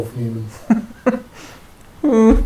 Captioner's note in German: lacht